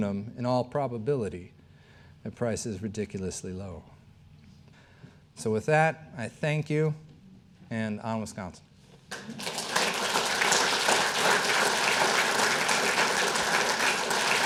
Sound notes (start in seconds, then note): 9.1 audience applauding